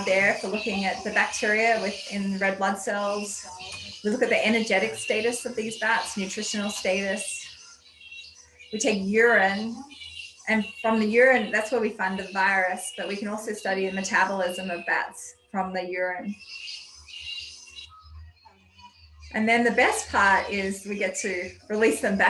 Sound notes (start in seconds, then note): 15.5 bat noises